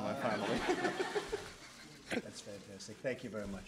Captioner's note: laughter